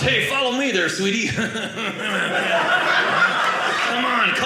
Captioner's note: audience laughing